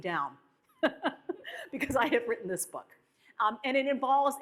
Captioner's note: laughs